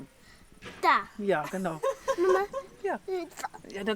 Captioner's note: laughs